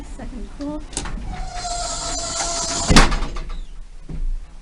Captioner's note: doors squeak and almost slam shut